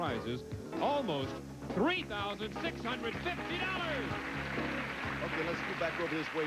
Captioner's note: audience applauding